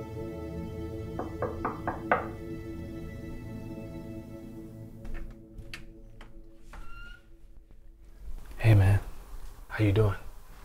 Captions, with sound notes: [knocking] Hey man. How are you doing?